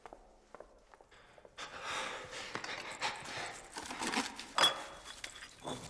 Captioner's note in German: Hecheln